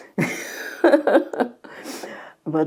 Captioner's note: laughing